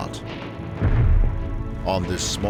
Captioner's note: explosion